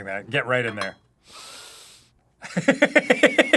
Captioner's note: deep, committed sniff; laughing